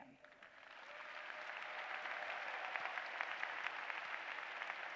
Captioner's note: applause